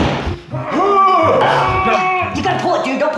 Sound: grunts

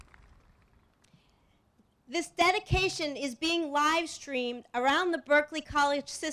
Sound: applause

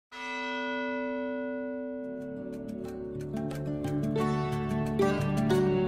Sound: bell Tolls

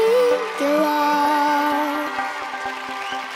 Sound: applause

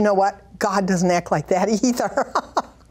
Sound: laughs

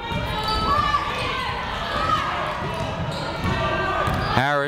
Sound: people shouting in the crowd

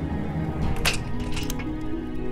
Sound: unlocking

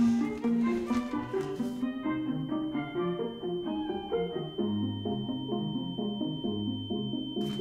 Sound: high-pitched ringing

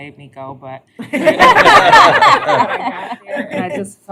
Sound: laughter

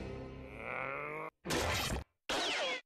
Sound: grunting

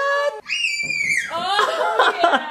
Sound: screaming

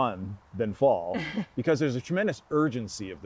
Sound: chuckling

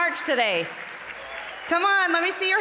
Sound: audience applauding

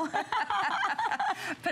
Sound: laughter

